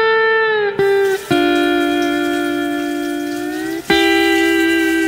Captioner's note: water running